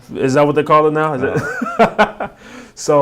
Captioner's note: laughing